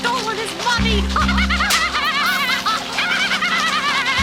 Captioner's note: laughing